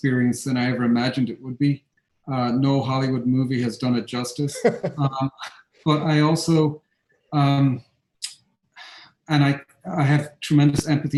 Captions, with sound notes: than I ever imagined it would be. No Hollywood movie has done it justice. (laughing) But I also, I have tremendous empathy for parents